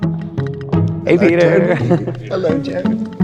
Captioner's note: giggles